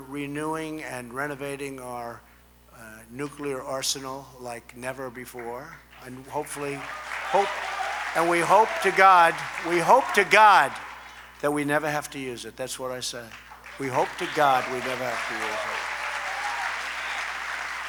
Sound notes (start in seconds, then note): 5.9 applause